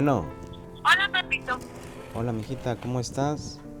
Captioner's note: mujer por teléfono